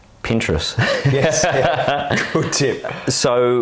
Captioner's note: laughs